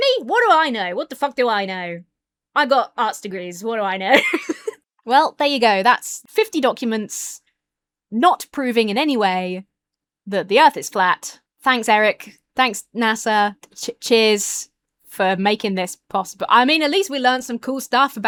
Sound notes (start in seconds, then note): 4.1 laughs